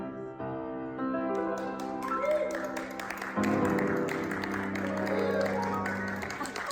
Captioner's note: audience clapping